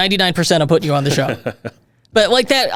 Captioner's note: giggling